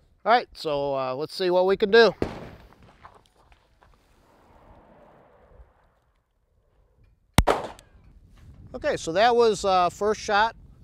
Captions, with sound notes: alright So let's see what we can do [Bang] Ok that was first shot